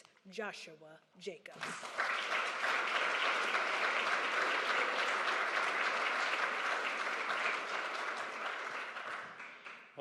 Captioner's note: applause